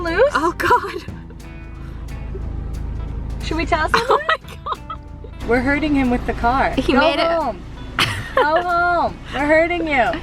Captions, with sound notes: (laughing) -Oh, God! - Should we tell someone? - Oh my God! (Giggling) - We're herding him with the car. Go home! Go home! We're herding you!